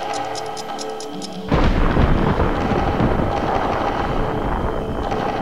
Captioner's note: explosion; debris falling